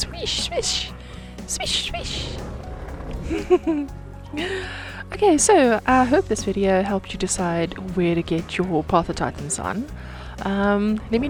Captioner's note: giggles